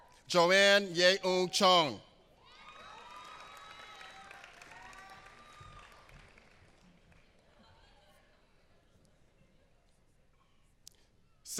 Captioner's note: applause